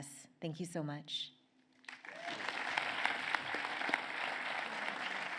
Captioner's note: applause